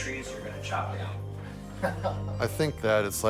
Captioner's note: chuckles